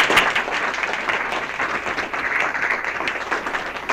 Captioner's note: applause